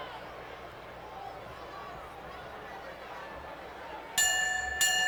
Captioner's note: crowd chattering; bell rings